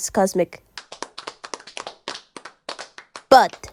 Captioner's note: depressing applause from the very enthusiastic class